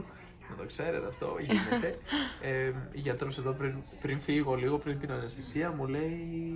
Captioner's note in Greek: γέλια